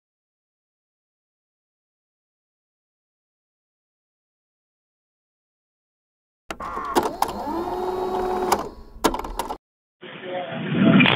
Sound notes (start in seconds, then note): 6.5 tape whirring